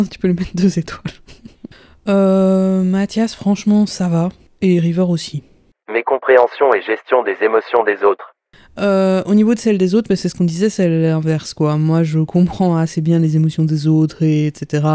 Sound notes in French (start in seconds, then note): 2.1 rire; 5.2 Voix off